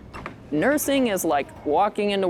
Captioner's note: door squeaking